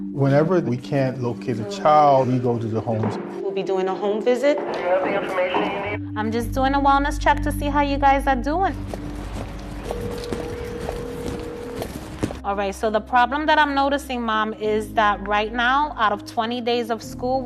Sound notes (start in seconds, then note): 8.9 phone rings